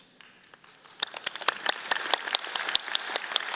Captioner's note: all clapping